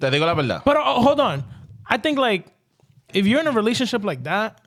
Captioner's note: speaking In Foreign Language